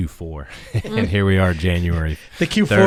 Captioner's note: panelists laughs